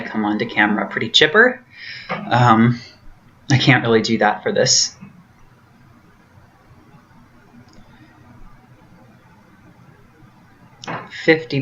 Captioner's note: long pause